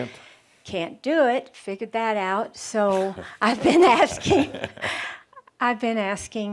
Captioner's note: they chuckle